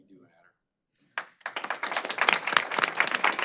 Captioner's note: applause